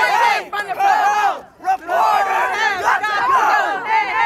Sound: chanting continues

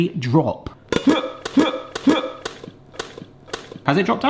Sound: grunting

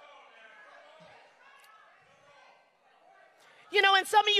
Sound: crowd shouting

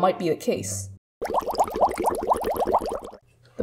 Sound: water bubbling

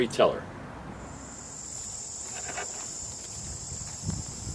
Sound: bugs chirping

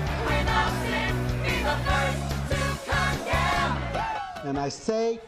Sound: protesters chanting

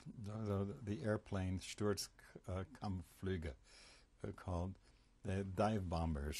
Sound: german

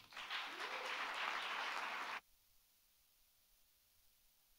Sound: audience applauds

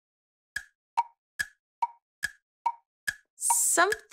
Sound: clock ticking

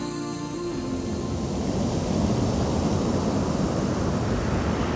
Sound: waves lapping

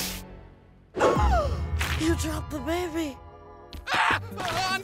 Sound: gasps

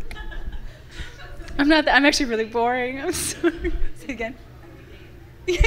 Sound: and audience members laughing; laughs

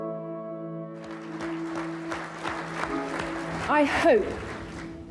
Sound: audience applauding

